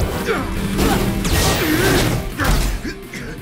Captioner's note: pained grunts